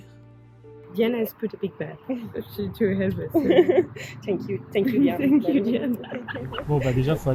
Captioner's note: laughs